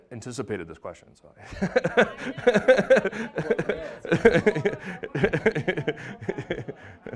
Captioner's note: laughing